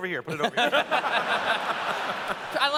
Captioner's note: laughter